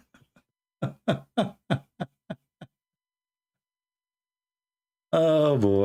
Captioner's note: Ketawa